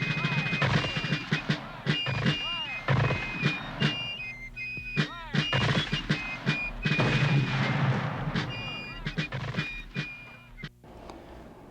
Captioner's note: mortar fire booming